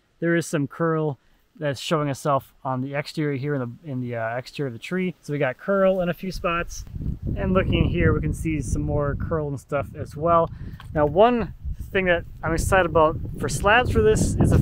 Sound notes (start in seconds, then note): none